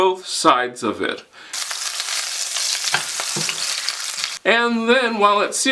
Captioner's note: sizzling